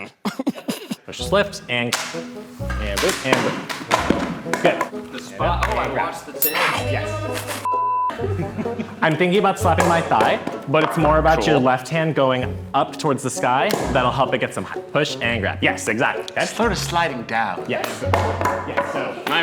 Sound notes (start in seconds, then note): 2.7 wood thudding; 6.4 bell dinging; 18.0 wood thudding